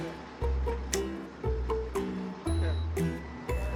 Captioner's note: snap